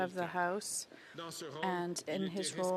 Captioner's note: speaking French